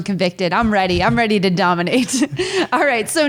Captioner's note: laughing